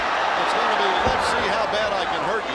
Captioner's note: crowd cheering